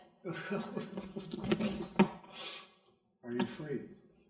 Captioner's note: man laughs